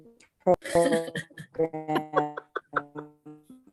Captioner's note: laughing